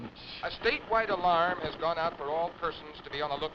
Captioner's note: radio Announcer